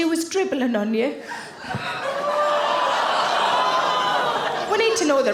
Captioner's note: audience exclaiming